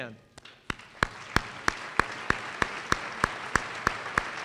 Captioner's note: applause